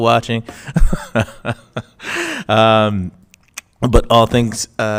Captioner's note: chuckles